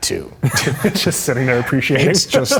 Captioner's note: both laughing